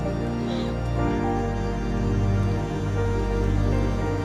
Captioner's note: Kimberly and Bethany laugh; rain pouring